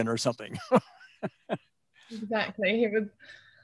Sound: laughing

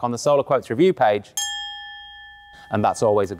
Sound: bell ringing

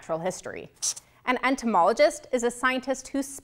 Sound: highlighter scratches

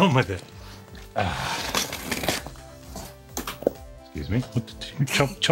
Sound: tape tearing

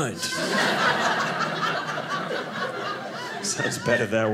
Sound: audience laughing

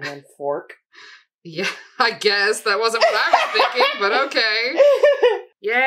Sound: gremlin laughter

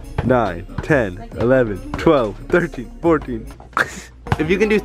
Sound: man happy laughing

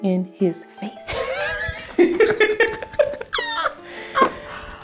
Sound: laughter

